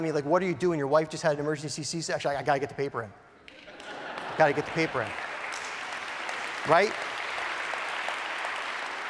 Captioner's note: applause